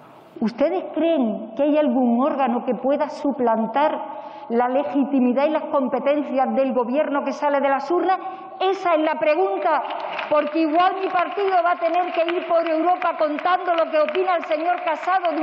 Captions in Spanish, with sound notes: ¿ustedes creen que hay algún órgano que pueda suplantar la legitimidad y las competencias del Gobierno que sale de las urnas? (Aplausos). Esa es la pregunta, porque igual mi partido va a tener que ir por Europa contando lo que opina el señor